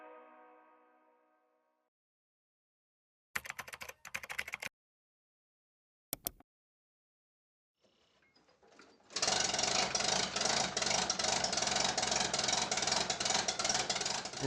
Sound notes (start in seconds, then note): 0.0 upbeat music continues; 3.4 keyboard clacking; 9.2 engine whirring